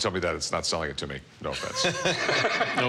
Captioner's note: all laugh